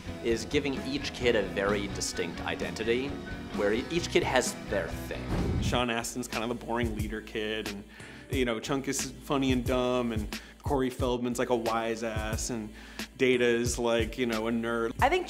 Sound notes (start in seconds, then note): 5.2 air whooshes; 7.1 groovy instrumental music